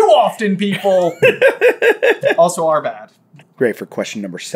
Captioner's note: giggling